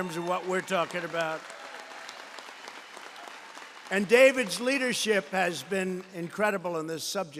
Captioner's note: applause